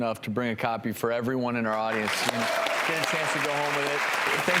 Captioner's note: applause